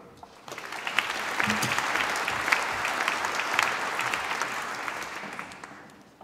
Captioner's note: applause